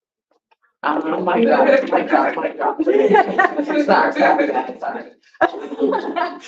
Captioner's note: laughs